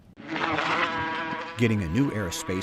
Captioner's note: small motor running